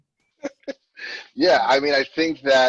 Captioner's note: laughs